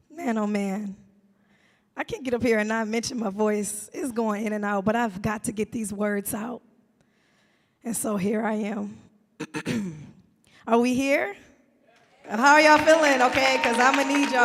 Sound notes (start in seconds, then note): 9.4 clears throat; 12.0 audience clapping